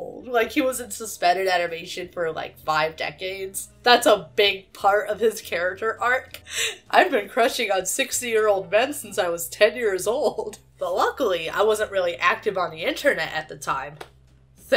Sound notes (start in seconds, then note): 6.4 laughs